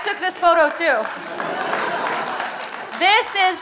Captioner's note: audience applauding